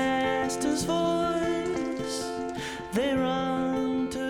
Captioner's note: sizzling